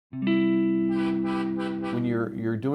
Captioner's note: soft music; truck honking